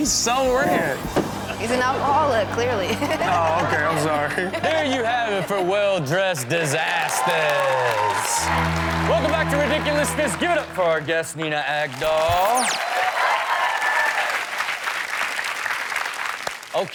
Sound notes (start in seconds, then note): 7.3 audience cheering and clapping; 12.8 audience cheering and clapping